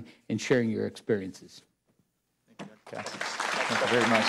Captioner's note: applause